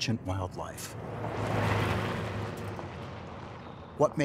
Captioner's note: truck driving past